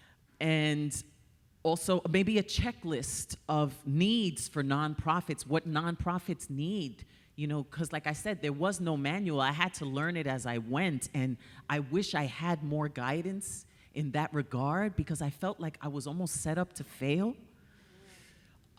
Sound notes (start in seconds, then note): none